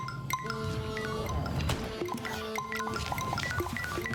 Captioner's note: SFX: Bing Bing Bing; SFX: Bing Bloop Ding Ding Bloop Bing